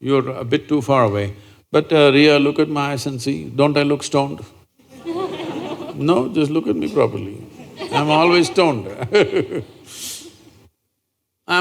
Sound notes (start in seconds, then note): 4.8 laughs